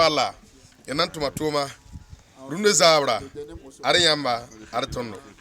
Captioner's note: speaking mòorè, local tongue